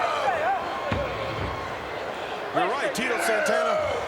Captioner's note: crowd murmuring